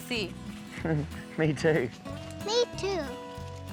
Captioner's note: chuckles